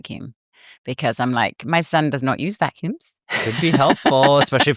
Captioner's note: laughs